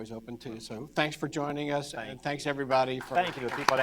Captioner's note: applause